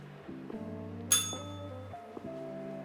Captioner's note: bell rings